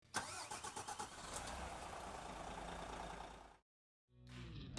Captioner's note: car engine revving